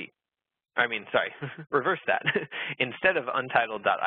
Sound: laughs

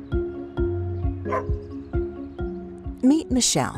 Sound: dog barks

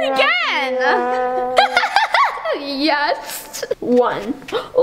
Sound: laughing

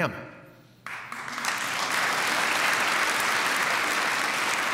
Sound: applause

